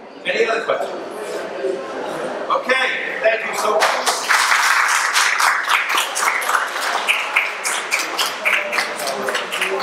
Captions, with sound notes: Any other question? Okay, thank you so much. (audience applauding)